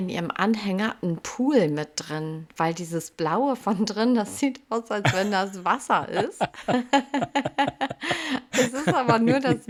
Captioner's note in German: gelächter